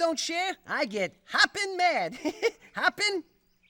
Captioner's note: laughs